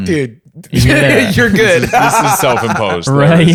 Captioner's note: laughs